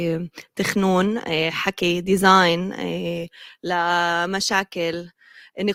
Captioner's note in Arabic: لغة أجنبية